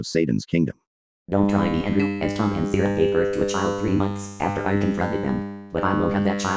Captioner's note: female robosoft voice